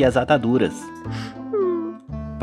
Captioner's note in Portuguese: Magali chorando